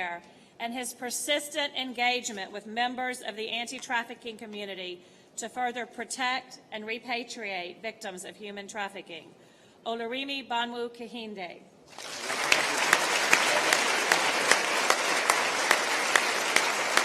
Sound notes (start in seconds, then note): 15.2 applause